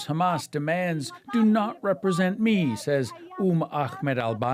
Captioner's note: speaking alternate language